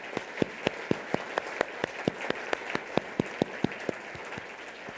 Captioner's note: applause